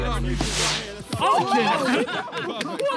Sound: players laugh

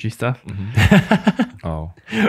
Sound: laughs

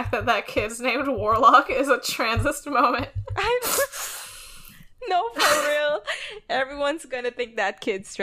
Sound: laughing

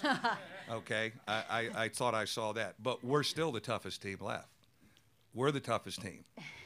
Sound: laughter

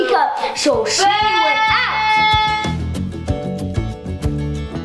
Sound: yelling

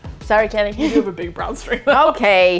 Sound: exasperatedly

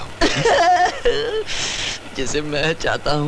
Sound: laughs

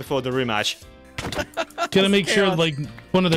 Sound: smacking noises

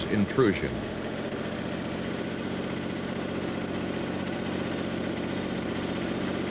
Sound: motor sounds

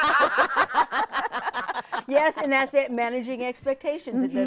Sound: all laughing

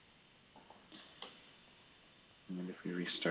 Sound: computer keyboard clicking

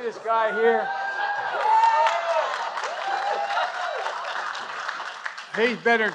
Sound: applause

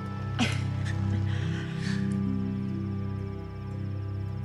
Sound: Grace chuckles

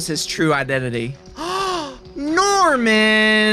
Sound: gaaaaaaasppp

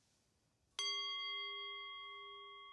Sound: chime rings

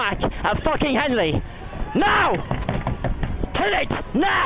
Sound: smacking boat

